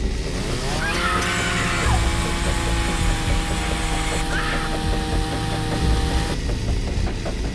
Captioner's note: chainsaw revs; dramatic music; Abby shouts